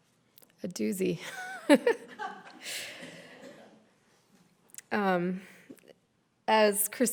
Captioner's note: laughs